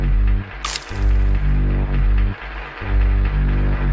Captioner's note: applause